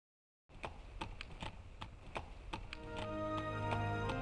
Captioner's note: horse hooves clomping